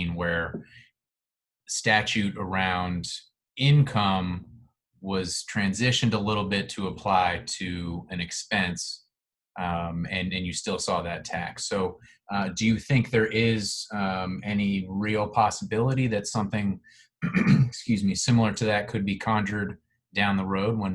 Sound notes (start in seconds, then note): 17.2 clearing throat